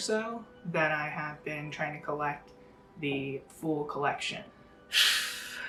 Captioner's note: exhales